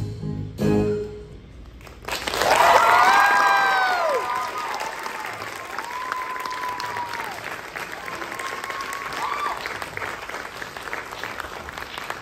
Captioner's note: applause